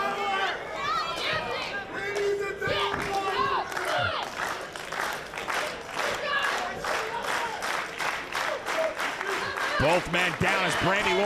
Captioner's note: applause